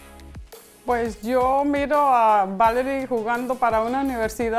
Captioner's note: foreign language